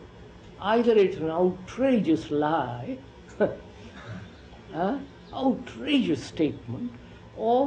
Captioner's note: laughs